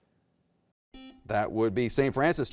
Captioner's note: buzzer beeps